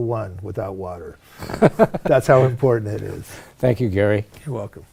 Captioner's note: laughing